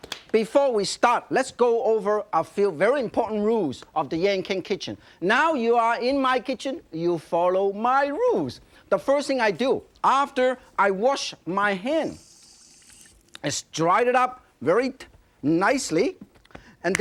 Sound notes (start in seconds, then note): 11.6 water running